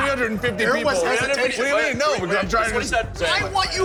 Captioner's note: all arguing